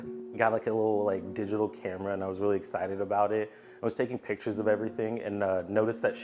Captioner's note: none